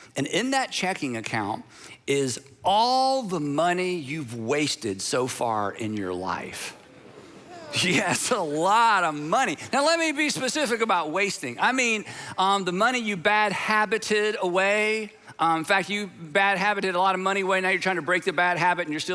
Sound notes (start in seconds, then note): 5.7 congregation converse